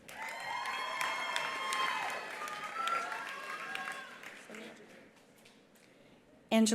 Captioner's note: attendees cheering; attendees applauding